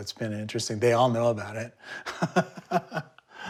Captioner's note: laughs